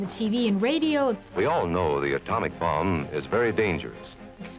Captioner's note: radio voice